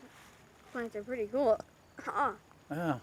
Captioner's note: belches